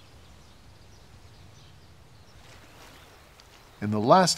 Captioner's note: water babbling